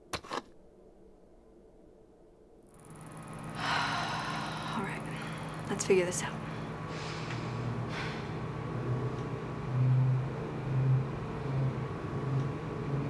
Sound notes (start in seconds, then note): 3.5 sighs